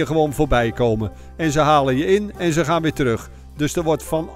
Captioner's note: voiceover